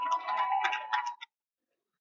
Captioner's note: cheering